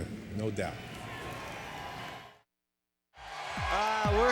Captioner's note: crowd cheering; exciting electronic music